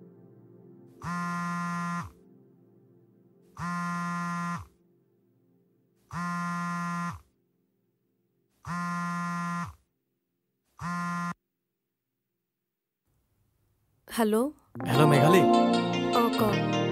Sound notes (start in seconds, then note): 1.0 phone rings